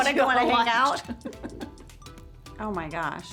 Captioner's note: Angela laughing